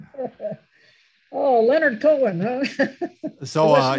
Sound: both laugh; laughs

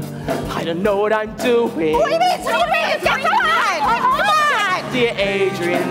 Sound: accomplices chat over each other

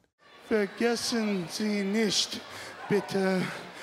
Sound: speaking German slowly

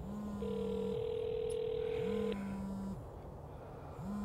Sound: cell phone ringing

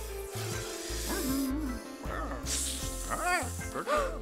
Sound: hissing

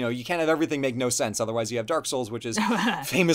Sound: laughs

